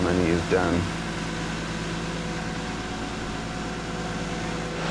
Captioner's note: vehicle rumbling